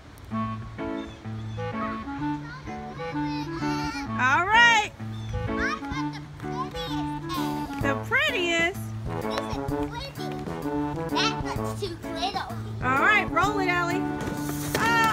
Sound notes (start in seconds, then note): 4.3 voiceover; 8.0 voiceover; 13.0 voiceover